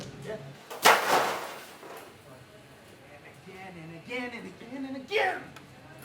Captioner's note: crashing noise